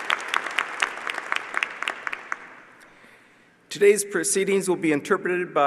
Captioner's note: applause